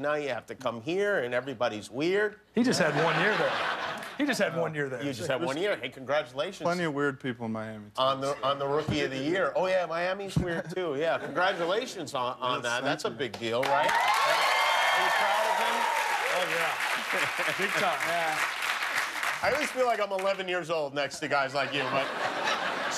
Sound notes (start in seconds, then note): 4.6 laughter; 13.6 cheers and applause